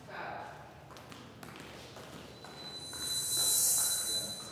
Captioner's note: footsteps plodding